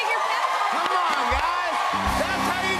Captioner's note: cheers and applause